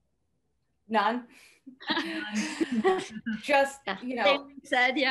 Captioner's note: laughs